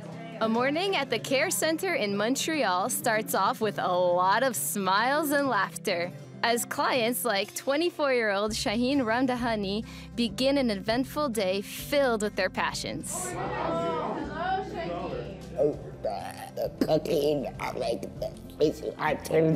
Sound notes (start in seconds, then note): 13.0 chatter